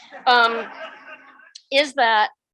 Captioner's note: audience laughs